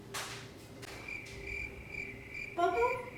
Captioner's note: crickets chirping